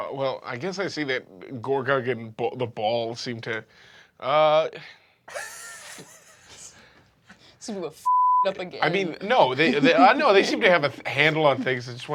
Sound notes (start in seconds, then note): 5.3 Riz laughs